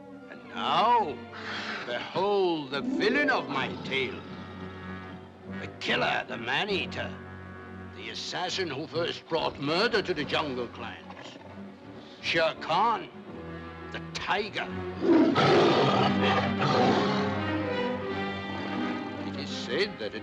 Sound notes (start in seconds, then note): 15.0 tiger growls; 15.3 dramatic music